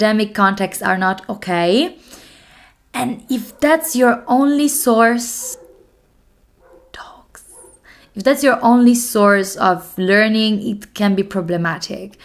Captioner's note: dogs in the background